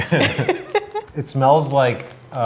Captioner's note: laughing